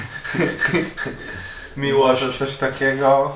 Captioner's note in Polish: śmiech